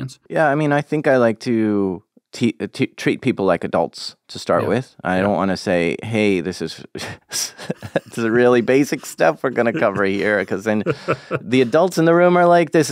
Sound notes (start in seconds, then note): 7.0 laughs